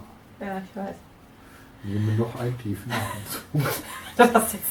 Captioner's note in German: Aus dem Off